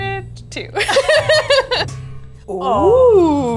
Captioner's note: both laugh